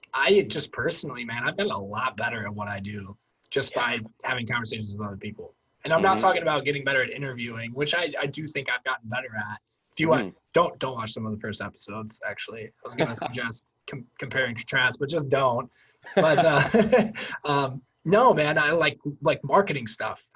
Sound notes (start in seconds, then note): 16.0 laughs